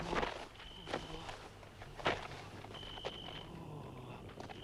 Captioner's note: door clatters; crickets chirping; Torente breathing heavily